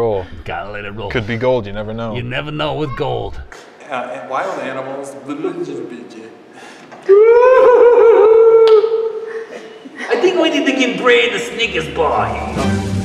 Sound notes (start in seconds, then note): 7.1 Odis howls